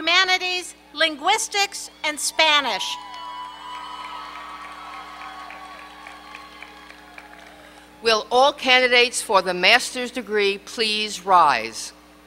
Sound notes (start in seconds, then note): 2.9 applause